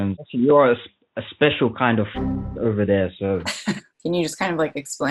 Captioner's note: boing sound; laughs